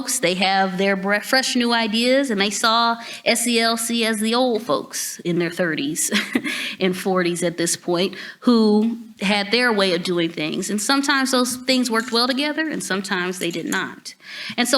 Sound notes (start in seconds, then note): 6.1 chuckles